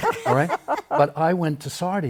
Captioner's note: laughter